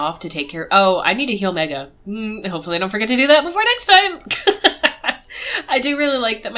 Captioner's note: laughs